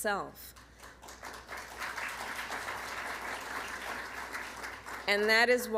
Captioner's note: applause